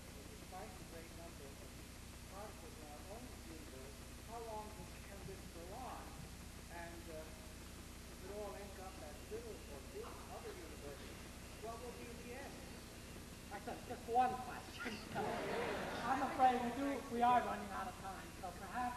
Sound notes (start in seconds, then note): 7.7 speaks faintly; 14.9 group laughs